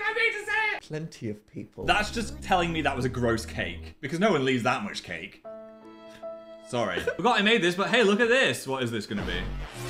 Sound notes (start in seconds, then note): 7.0 Dan fake crying; 9.7 electric whirring